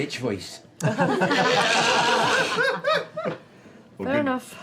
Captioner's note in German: Gelächter